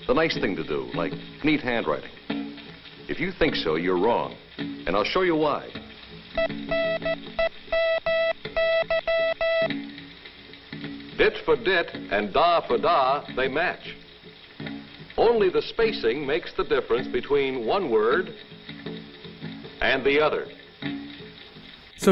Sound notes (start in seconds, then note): 5.7 letters being sent by morse code